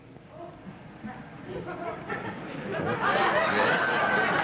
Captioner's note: laughter